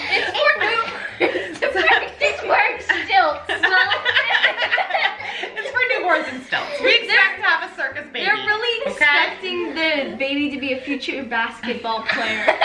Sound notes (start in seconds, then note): 2.8 everyone laughs